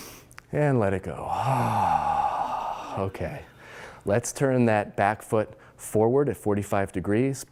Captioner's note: loud exhaling